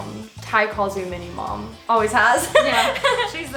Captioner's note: laughs